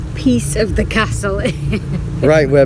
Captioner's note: laughs